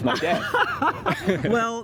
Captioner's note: laughter